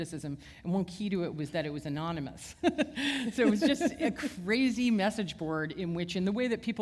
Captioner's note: chuckle